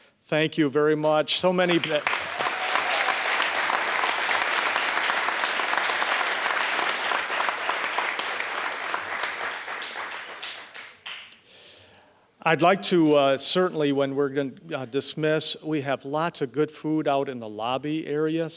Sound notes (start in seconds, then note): 2.5 applause